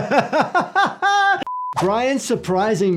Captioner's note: laughing; production tone beeps